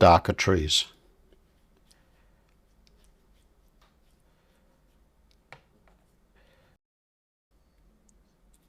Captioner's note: silence